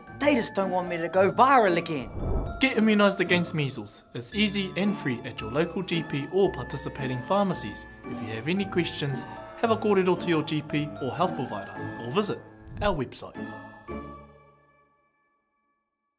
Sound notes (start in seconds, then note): 2.0 air swooshing; 13.3 playful music